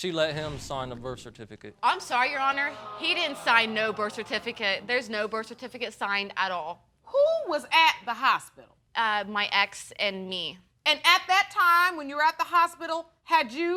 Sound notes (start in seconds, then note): 1.8 audience moans